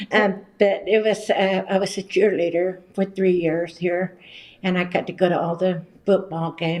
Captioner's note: laughs